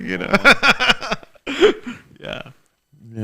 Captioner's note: laughing